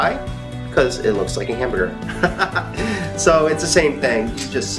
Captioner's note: laughs